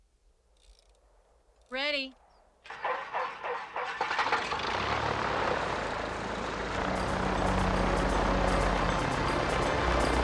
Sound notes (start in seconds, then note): 2.6 engine whirring; 6.8 dramatic music